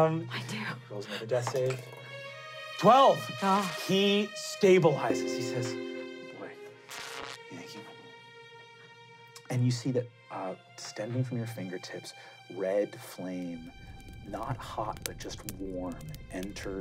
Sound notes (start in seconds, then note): 2.6 dice rolling; 5.0 calm music